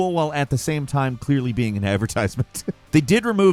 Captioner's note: laughs